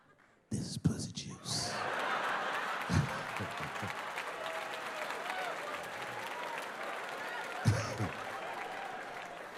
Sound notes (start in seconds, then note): 1.7 audience cheering and clapping